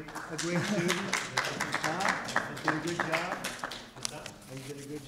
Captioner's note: applause